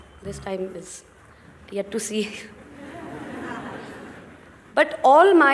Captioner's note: laughter